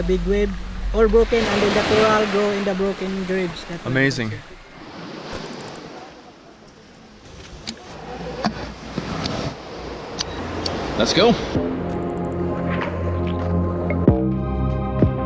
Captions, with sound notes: - Amazing. (ocean waves flowing) Let's go. (uplifting music)